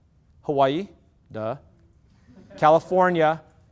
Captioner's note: loud laughter